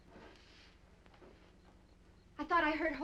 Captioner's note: insects chirping